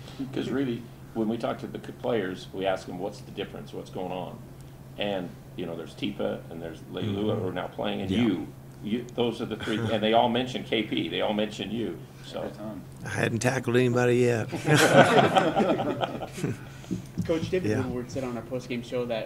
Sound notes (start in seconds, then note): 14.5 laughter